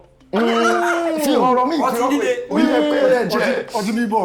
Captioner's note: laughs